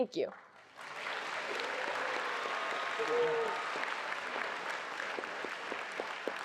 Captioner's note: attendees applauding and cheering